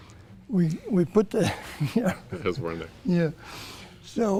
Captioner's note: chuckles